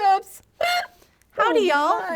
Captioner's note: hic